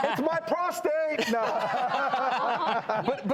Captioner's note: laughing